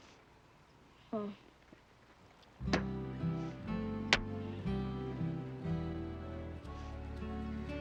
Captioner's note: spitting; hands clapping; gentle music